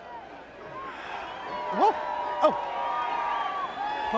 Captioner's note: crowd cheering